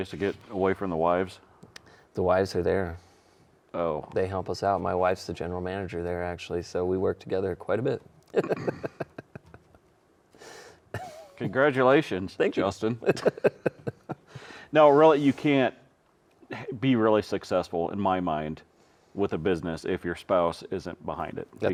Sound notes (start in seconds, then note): 8.2 chuckling; 12.9 chuckling